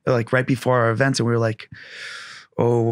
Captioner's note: inhales